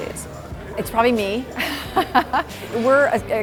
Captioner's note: laughs